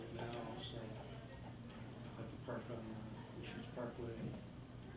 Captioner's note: faintly speaking; faintly speaking